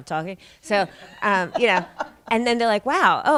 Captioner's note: audience laughing